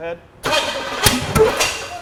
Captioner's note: engine backfires; engine cranking